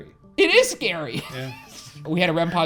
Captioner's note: laughs